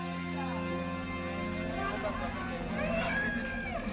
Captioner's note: distant chatter